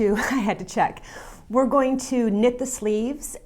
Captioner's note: laughs